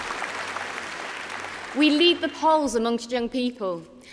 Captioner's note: applause